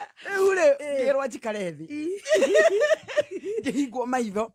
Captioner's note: laughter